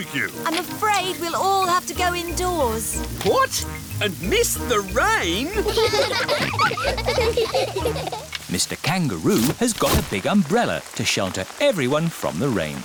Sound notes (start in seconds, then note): 5.3 all laughing